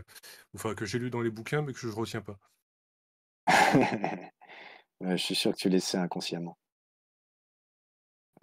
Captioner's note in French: rires